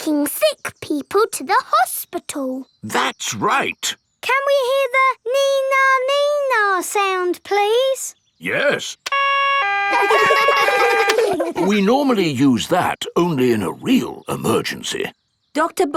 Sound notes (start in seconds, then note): 9.0 siren wailing; 9.1 siren stops; 9.7 kids laugh